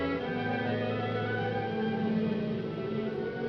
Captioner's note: wind howls